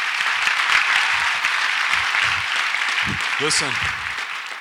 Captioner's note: audience applauds